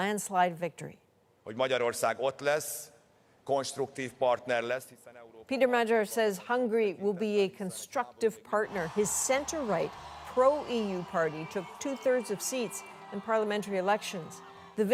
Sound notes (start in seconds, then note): 5.4 speaking alternate language